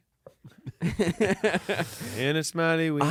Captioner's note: everyone laughs